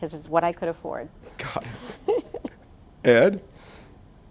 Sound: laughs

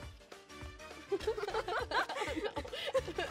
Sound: laughing

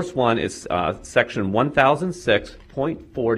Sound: none

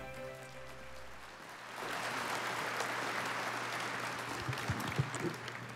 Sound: audience applauding

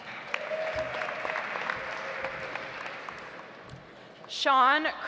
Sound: audience applauds

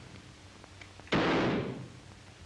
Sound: gunshot

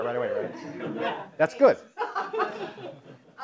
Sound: laugh

